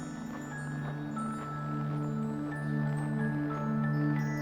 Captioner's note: shoes crunch in snow